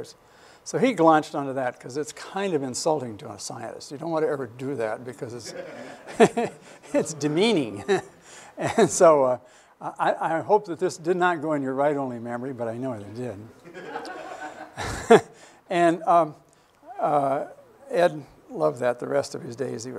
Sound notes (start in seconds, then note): 5.4 laughter; 5.4 laughs; 13.6 laughter